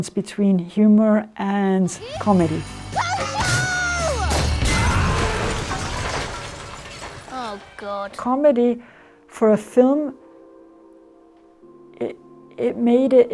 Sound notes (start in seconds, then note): 4.2 building exploding and glass breaking; 4.3 weapon launching